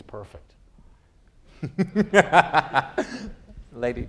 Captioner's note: laughter